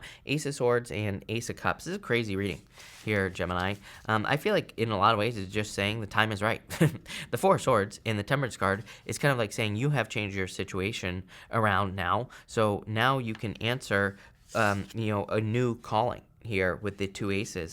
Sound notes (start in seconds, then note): 6.9 chuckles